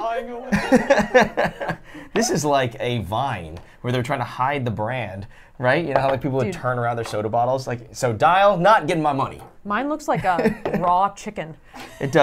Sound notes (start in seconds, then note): 0.0 laughs; 9.3 laughs